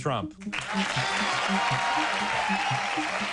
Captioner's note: applause